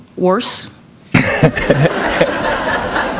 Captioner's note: laughter